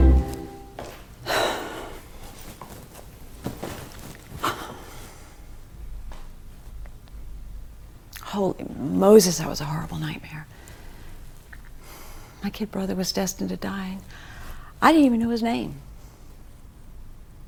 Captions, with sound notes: (Samantha exhales) - Holy Moses, that was a horrible nightmare. My kid brother was destined to die. I didn't even know his name.